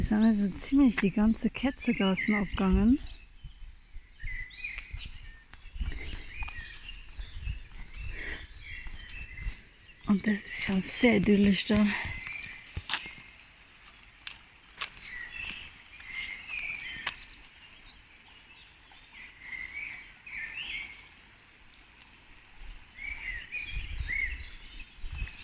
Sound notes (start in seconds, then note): 16.2 brook noise; 22.5 birdsong